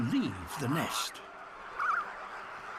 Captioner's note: croaks, chick chirrups